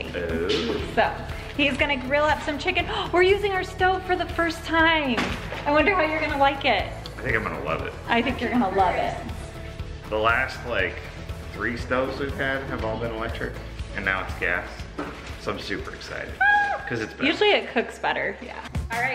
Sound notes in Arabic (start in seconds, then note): 3.0 شهقات